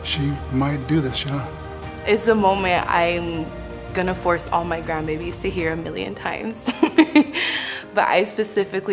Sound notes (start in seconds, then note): 6.6 laughs